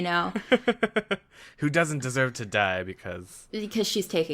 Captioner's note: laughs